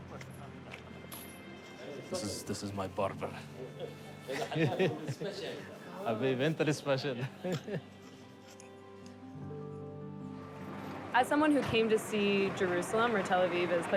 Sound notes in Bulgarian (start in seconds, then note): 3.4 разговор на арабски; 7.2 се смее